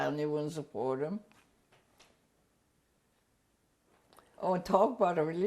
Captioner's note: pauses for 3 seconds